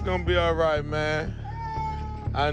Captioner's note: crying